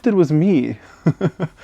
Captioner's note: laughs